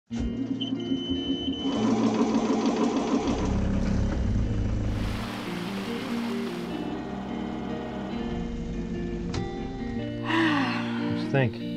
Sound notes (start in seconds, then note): 0.3 boat beeps; 1.8 engine whirs; 10.2 sighs